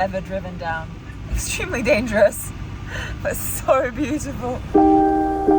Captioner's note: laughs; soft music